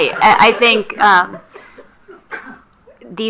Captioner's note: attendees laughing